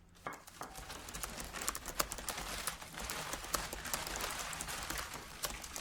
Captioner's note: typing